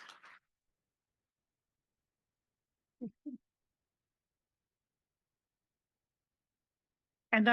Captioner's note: applause